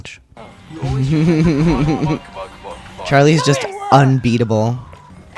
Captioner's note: laughter